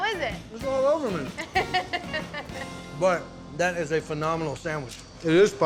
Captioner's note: giggling